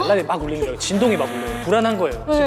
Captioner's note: vibrating